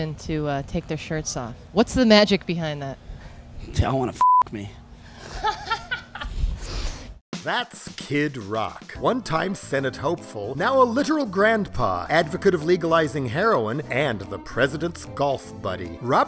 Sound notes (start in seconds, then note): 4.2 beep; 5.6 laughing